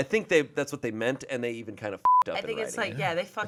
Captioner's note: beep